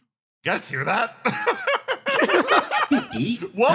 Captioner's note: laughs